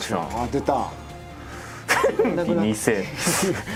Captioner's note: giggles